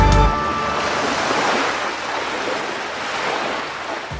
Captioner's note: ocean waves